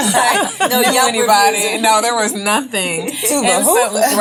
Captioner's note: all laugh